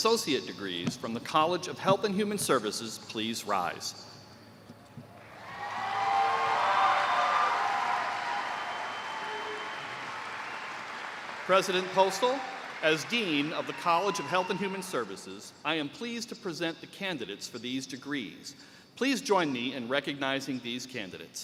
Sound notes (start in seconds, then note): 9.3 cheers and applause